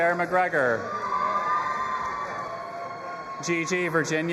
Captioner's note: audience applauding and cheering